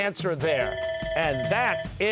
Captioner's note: bell ringing